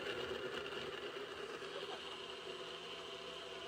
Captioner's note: blender noises lol